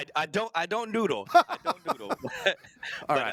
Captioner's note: laughter